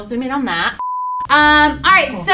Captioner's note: beep